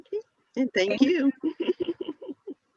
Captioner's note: laughs